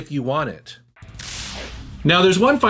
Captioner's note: electricity crackling